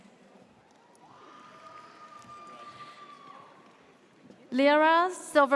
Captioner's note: audience cheers